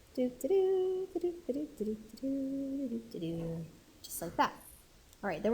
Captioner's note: instructor humming